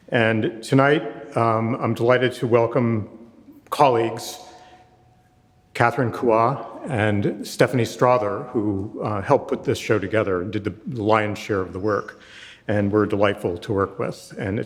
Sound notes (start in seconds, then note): none